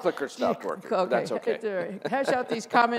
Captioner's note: laughs